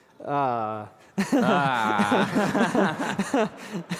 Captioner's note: laughter